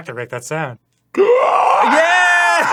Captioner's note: screeches like a prehistoric cryptid